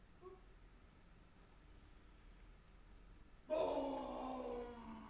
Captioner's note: performer yelps